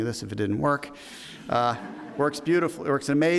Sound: audience laughs

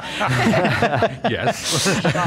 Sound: all laughing

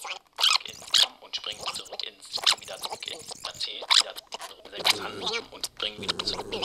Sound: non-Diegetic Audio: Analog Cassette Tape Noise

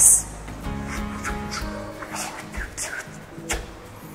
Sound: beatboxes

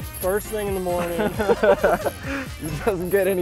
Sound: both laughing

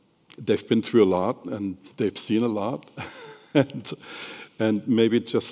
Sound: laughs

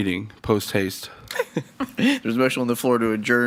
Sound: laughs

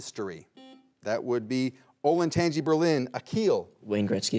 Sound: buzzer beeps once

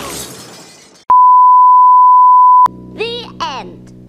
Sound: beep noises

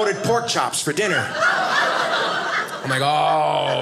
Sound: audience laughing

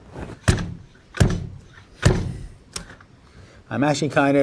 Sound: machine thuds

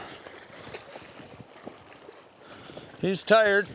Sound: water lapping

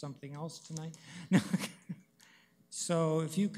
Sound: chuckles

